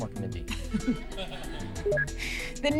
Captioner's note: laughter; beeps